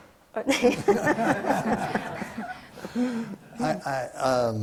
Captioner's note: panel laughs